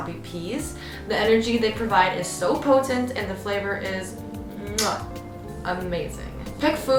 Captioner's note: mwah